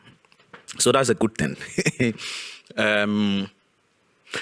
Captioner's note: laughs